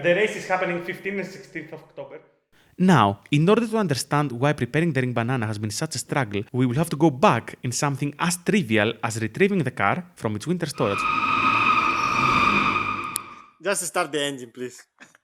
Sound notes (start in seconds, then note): 10.8 extreme belt whine